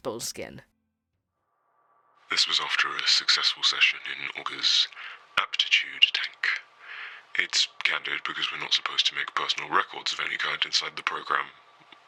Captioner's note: on phone